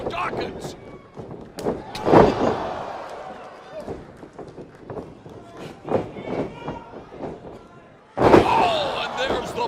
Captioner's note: crowd cheering